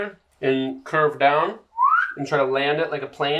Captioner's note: whistles